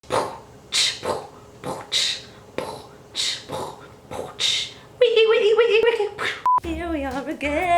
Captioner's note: beatboxing like a pro